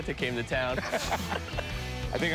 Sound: laughter

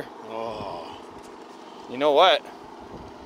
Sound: sighs

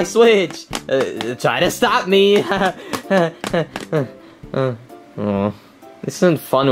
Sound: nervously laughing

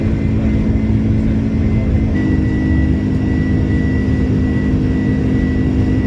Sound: engine rumbling continues

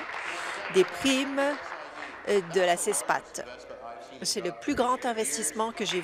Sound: applause

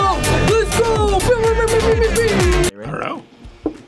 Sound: upbeat music; mimics air horns

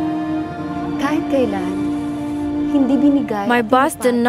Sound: foreign language

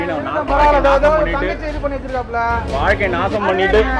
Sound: crowd murumur

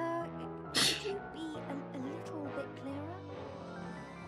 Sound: scoffs

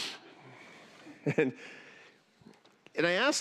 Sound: laughter

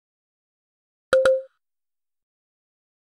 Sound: sound of error tone

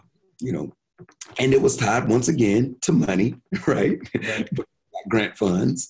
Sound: chuckles

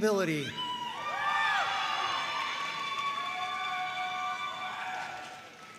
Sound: audience cheering and applauding

